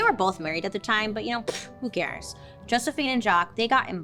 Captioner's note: scoffs